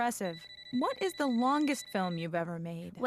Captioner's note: cell phone ringing